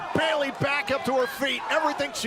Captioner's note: crowd cheering